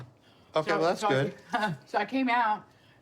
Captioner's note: laughs